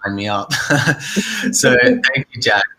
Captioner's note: chuckles